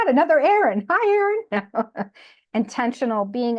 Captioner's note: laughs